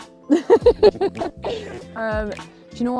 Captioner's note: laughs